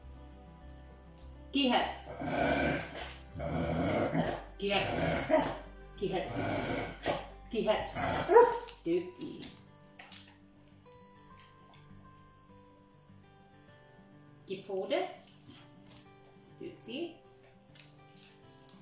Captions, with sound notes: Speak! Speak. [Gilbert grunts] Speak. Speak. [Gilbert barks] Good. Say hello. Good.